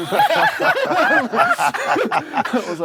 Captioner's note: laughter